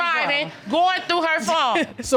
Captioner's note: chuckles